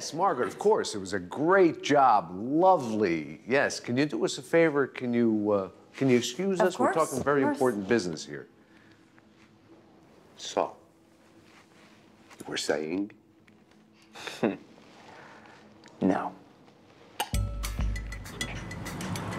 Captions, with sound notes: What, what, I don't know-- Right, right, Seymour? Yes, Margaret, of course, it was a great job, lovely, yes. Can you do us a favor? Can you, uh... can you excuse us? Of course. We're talking very important business here. So... You were saying? (chuckles) No.